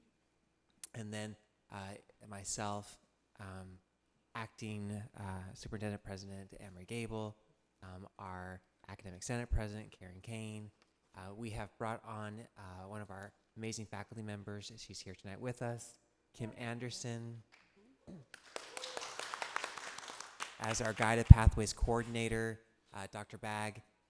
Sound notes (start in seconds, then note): 18.3 audience applauding